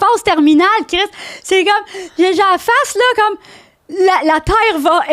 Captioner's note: in french